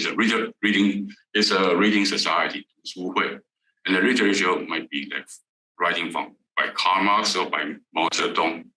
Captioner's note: Mandarin